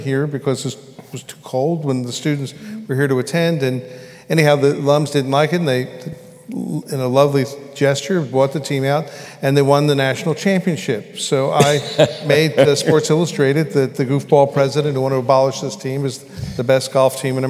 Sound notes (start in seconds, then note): 11.6 laughter